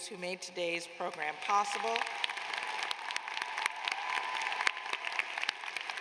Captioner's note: applause